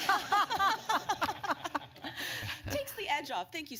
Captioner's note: laughter